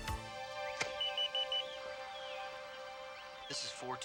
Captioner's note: phone beeping